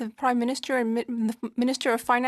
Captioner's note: speaking French